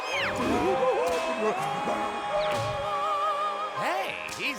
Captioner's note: clyde screeches into the mic